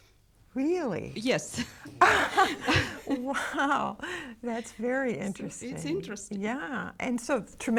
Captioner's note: laughs